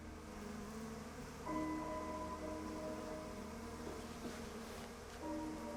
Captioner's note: wasps buzzing